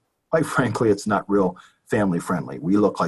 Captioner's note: chuckles